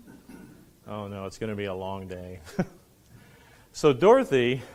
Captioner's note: laughs